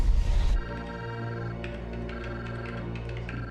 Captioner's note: machine trilling